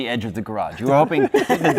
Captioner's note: laughter